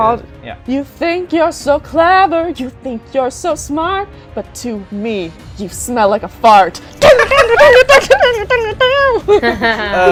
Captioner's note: laughter